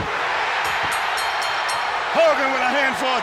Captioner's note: crowd cheers; bell rings